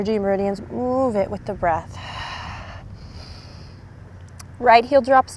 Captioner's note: takes deep breath